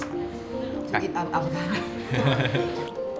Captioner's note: laughs